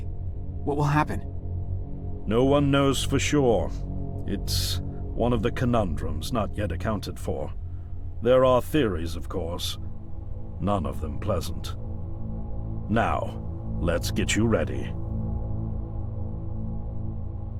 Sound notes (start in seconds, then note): none